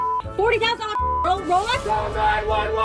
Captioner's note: beeping